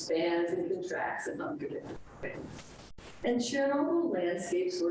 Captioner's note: speaks distorted